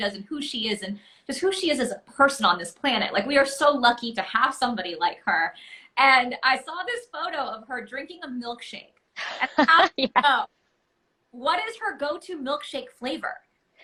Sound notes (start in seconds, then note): 9.2 laughs